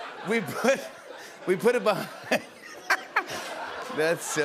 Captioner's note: laughs